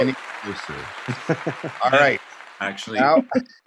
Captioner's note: audience clapping